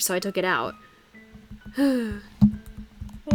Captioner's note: sighs